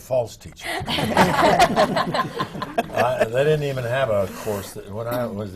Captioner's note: laughter